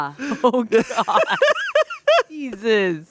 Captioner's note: laughing